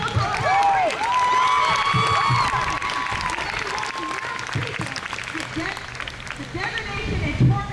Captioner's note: crowd cheers